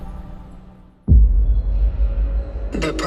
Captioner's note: low tone